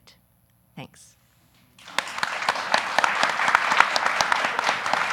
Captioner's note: audience applauding